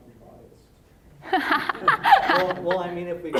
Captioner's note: laughing